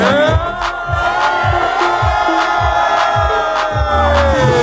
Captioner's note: cheering